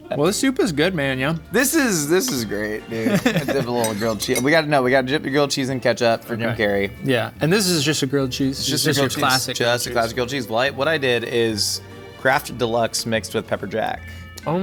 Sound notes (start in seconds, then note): 2.8 laughing